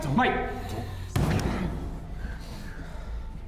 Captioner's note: bangs wall